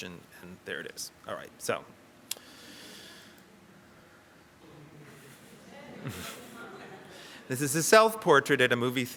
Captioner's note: audience laughter